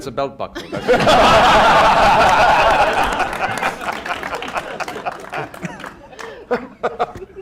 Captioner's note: laughter